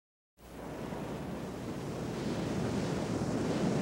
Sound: waves crashing

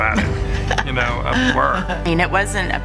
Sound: laughing

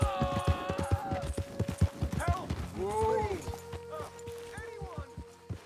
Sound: A man screams in pain in the distance

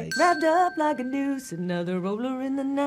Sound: bell dinging

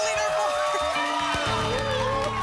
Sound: audience shouting numbers

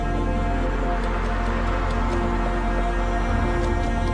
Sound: engines roar

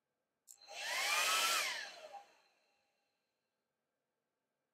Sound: hairdryer turning on & off

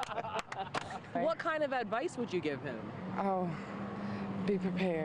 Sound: laughter

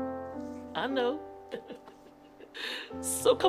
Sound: chuckling

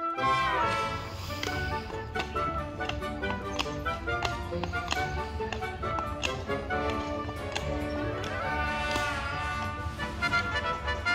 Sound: clip-clopping sound of horse hooves on the street

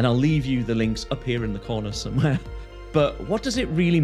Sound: chuckles

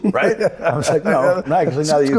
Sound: Michael laughing

